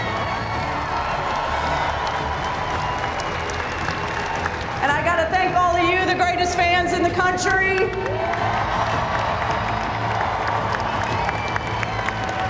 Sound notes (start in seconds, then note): 0.1 cheers and applause; 8.2 cheers and applause